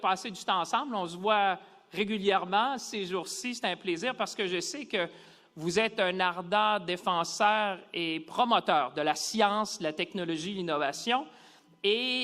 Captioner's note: speaking French